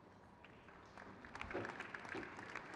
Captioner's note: crowd cheers